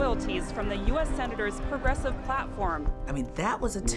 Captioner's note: crowd chanting Bernie's slogans